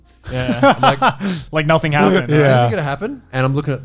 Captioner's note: all laughing